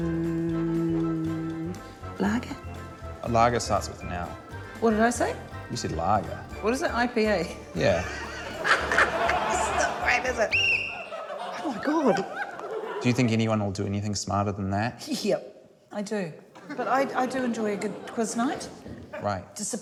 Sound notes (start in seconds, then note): 7.8 laughs; 10.5 blows whistle; 15.7 laughs